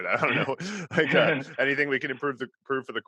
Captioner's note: laughs